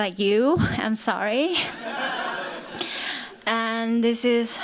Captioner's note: laughter